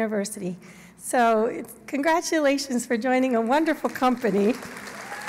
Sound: applause

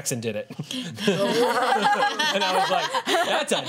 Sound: laughter

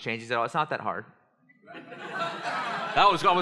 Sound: laughter

